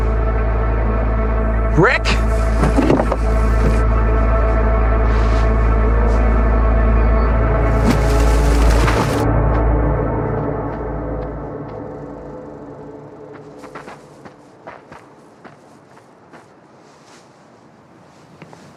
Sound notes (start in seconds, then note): 7.3 music fades; 7.6 dirt clattering